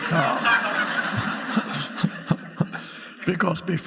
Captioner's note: audience laughing